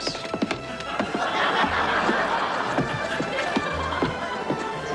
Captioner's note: audience laughing